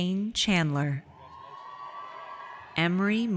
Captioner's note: audience cheers